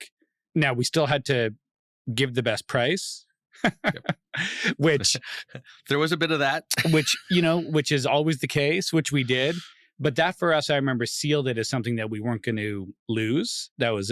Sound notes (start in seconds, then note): 3.6 laughs